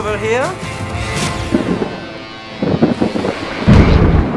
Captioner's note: thunder booms and lightning crackles